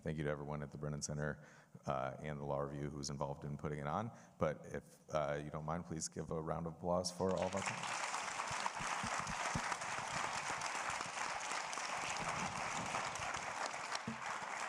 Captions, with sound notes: Thank you to everyone at the Brennan Center and the Law Review, who's involved in putting it on. But if you don't mind, please give a round of applause for all of our panelist. (audience applauding)